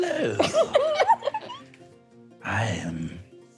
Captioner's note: laughing